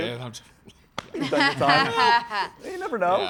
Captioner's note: laughs